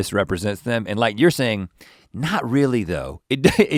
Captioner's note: laughs